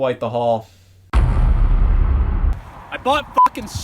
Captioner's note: heavy thud